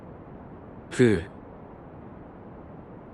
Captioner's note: sigh